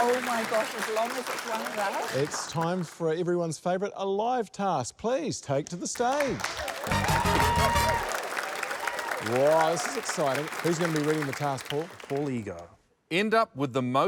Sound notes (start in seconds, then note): 5.9 applause, cheering